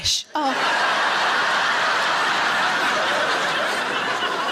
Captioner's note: audience laughs